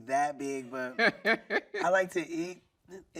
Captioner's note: laughing